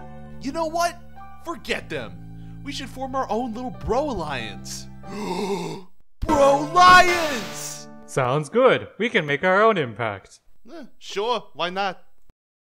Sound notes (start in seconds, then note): 5.1 Frisbee gasps